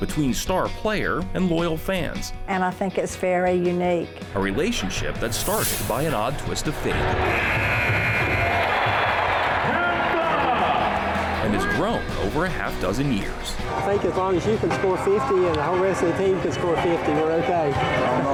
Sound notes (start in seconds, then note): 6.8 crowd cheering; 7.2 buzzer